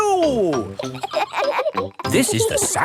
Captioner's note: kids laughing